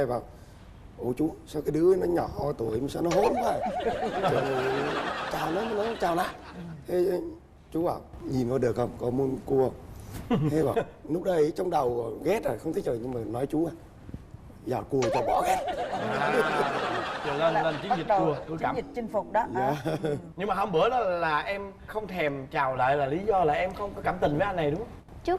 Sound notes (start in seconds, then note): 15.0 laughing